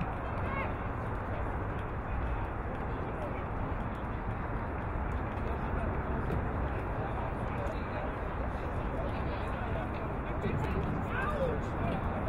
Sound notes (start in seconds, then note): none